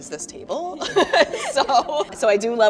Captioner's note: laughing